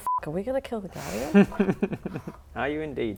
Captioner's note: evil laugh